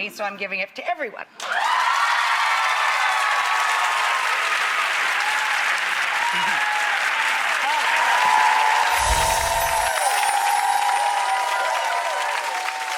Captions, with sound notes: so I'm giving it to everyone. (audience cheers) (whimsical music)